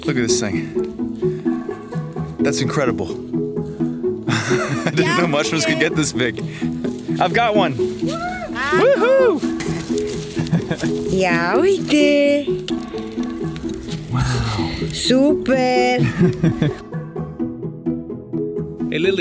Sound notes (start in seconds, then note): 8.6 cheering; 11.2 speaking Romanian; 16.6 gentle upbeat music